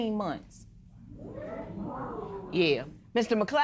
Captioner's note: spectators murmuring